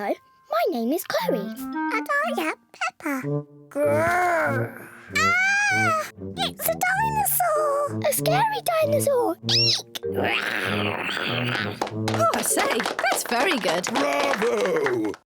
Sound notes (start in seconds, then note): 5.1 peppa screams; 10.3 george roars menacingly